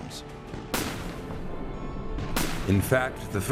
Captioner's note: gunshots